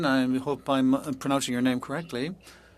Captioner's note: speaking french